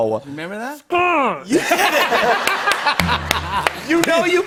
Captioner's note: laughter